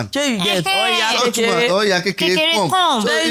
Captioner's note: laughs